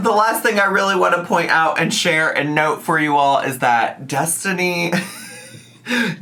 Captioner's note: laughs